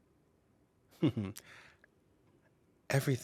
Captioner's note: chuckling